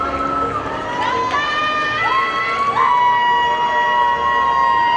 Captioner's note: audience cheers